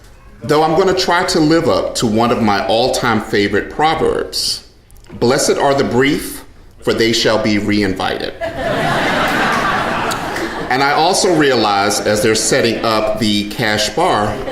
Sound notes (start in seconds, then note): 8.4 audience laughing loudly